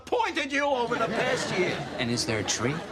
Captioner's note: laughter